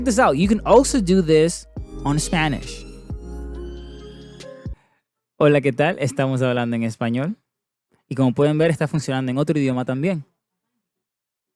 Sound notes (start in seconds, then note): 5.7 Spanish